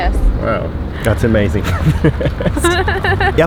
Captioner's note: laugh